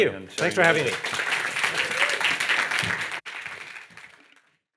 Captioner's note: audience applauding